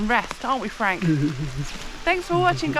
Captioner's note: sobbing